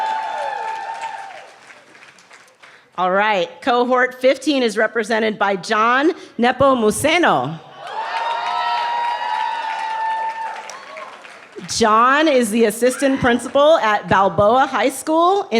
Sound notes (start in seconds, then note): 0.0 cheers; 7.7 cheering